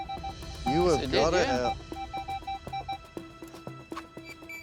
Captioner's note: electronic beeping